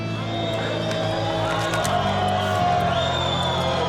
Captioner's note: crowd applause